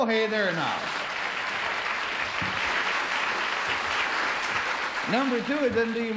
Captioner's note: applause